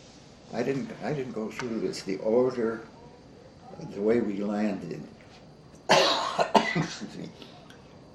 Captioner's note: coughs